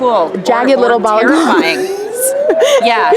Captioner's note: laughing